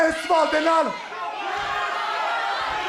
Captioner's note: speaking in foreign language